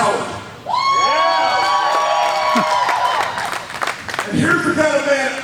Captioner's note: audience cheering